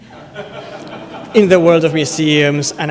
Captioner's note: laughter